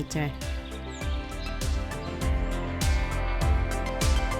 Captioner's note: birds chirping